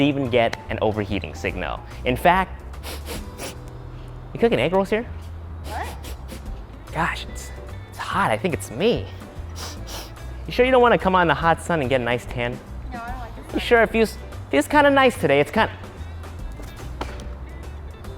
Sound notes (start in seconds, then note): 5.6 sniffing; 9.5 sniffing